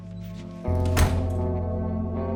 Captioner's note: door closes